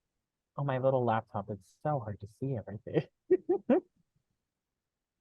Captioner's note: laughs